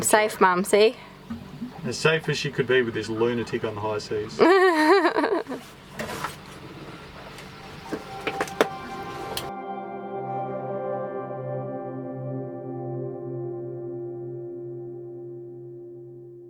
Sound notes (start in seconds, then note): 4.3 laughing; 8.4 peaceful music